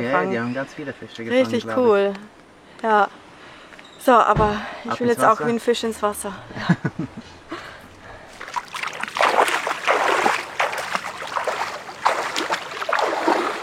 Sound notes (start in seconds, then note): 6.5 laugh; 8.3 splattering of water